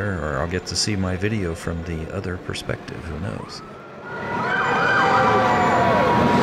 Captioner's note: crowd and parade sounds, sirens